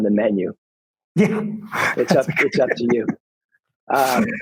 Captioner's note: laughing